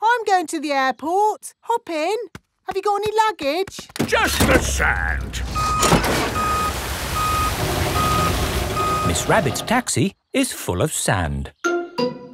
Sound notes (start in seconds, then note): 4.8 beeping